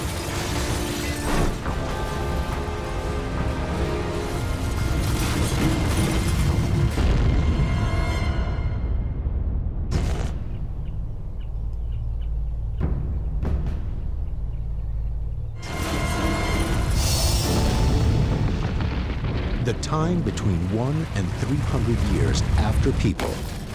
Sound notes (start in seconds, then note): 0.0 shattering; 8.8 booming; 12.0 birds chirp